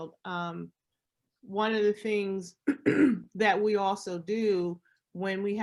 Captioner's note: clears throat